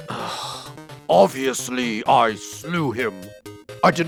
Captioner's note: exasperated sigh